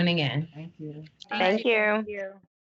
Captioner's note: crowd